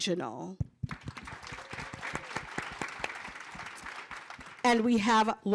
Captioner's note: cheering and applause